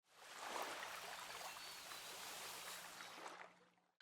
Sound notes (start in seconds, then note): 0.2 water lapping